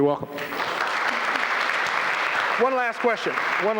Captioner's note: applause